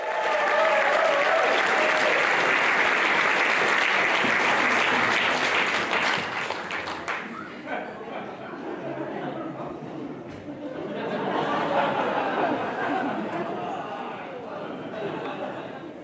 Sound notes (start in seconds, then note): 0.0 audience cheers; 9.0 audience laughs